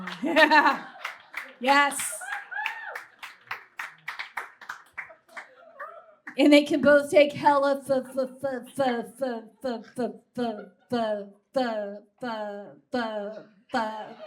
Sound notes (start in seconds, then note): 2.5 scattered whoops and claps